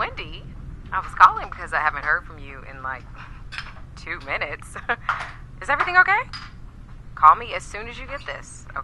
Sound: laughter

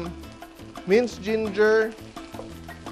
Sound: sizzle

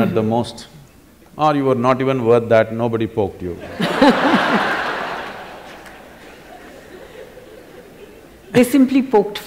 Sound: laughter

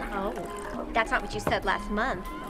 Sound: wine pouring

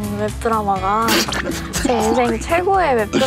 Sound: cracking up

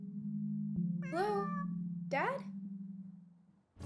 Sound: Jazzy meows

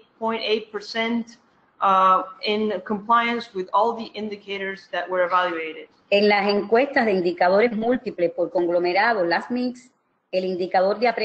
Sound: speaking another language

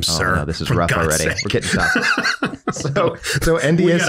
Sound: laughs

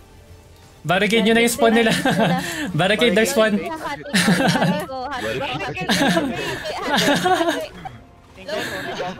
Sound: haha

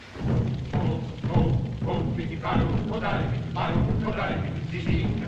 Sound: drums Beating; men Chanting In African Language

